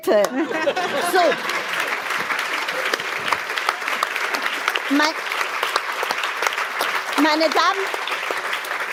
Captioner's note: applause